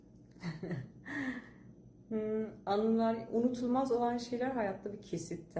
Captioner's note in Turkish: kahkaha